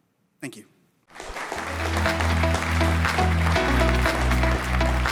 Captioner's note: audience applauding